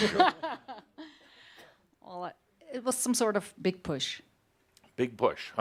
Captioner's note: laughing